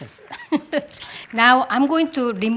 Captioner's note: laughs